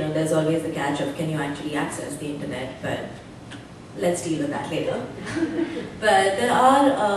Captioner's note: laughter